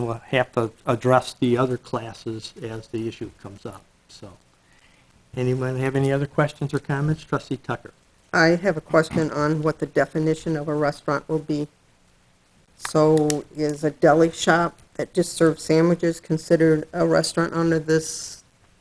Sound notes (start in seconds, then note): none